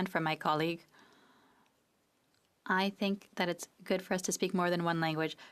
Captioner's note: speaking French